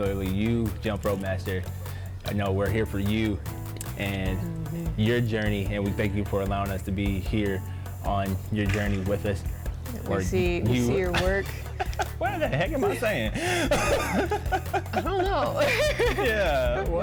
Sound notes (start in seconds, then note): 10.8 laughs; 13.6 continues laughing; 15.5 both laugh